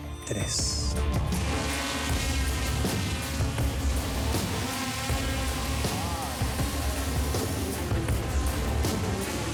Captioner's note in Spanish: ruido de los drones